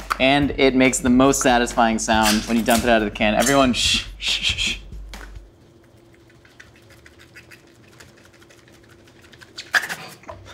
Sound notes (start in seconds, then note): 5.6 spam squishing